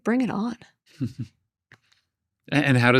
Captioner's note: chuckles